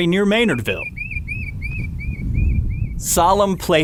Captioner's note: wind blowing; birds chirping